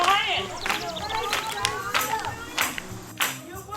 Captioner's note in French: bruit d'applaudissement, chant